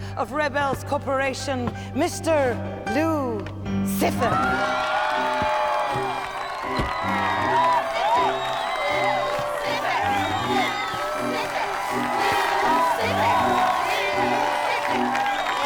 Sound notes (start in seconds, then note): 4.9 students applaud; 10.7 cheerleaders chant